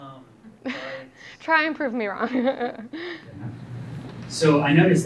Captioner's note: laughing